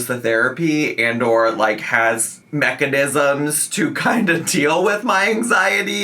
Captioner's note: chuckling